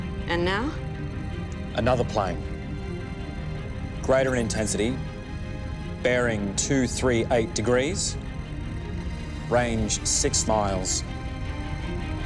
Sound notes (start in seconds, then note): 4.1 machine bleeping